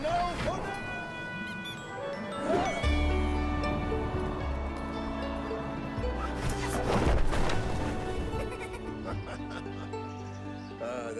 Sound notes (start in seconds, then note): 6.2 parachutes opening; 8.3 giggling